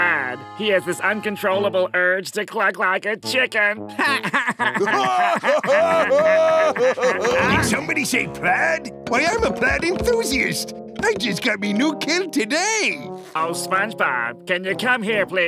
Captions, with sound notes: he has this uncontrollable urge to cluck like a chicken. [laughing] Somebody say plaid? Why, I'm a plaid enthusiast. I just got me new kilt today. Oh, SpongeBob, can you come here, please?